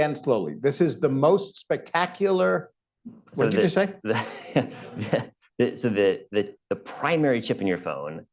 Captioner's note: laughter